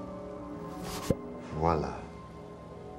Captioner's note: <i> whoosh and pop</i>